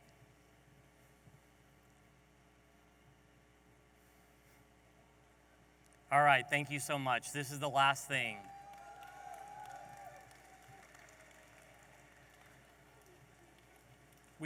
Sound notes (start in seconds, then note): 8.1 audience applauding